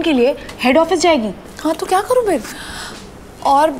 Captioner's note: Gauravi inhales